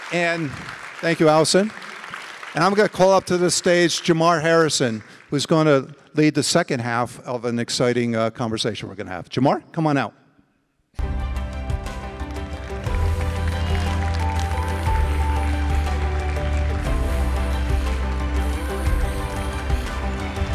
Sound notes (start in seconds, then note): 11.0 uplifting music; 11.0 audience applauding